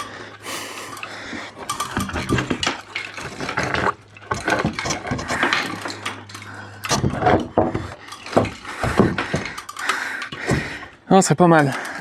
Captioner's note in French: grognement